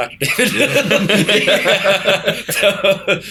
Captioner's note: laughter